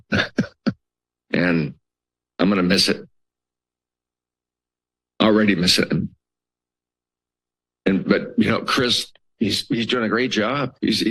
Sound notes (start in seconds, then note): 0.0 laughs; 3.2 pause